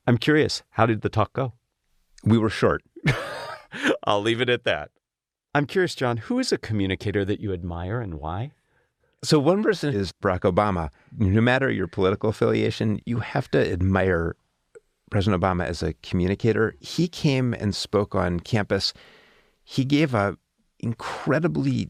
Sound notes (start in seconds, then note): 3.0 laugh